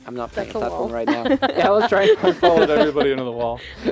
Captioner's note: laughter